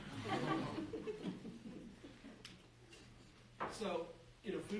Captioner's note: group laughing